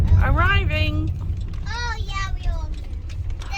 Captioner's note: children in background